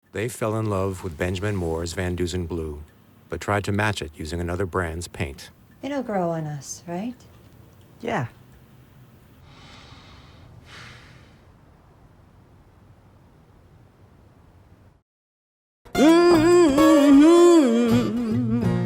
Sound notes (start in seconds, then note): 10.6 man sighs; 15.9 blues music